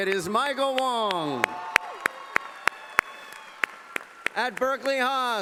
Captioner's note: cheering and applause